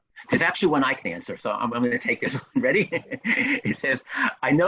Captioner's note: chuckles